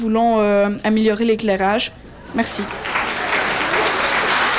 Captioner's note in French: applaudissements